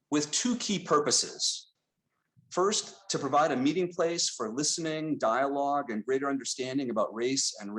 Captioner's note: none